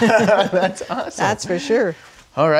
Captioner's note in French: rient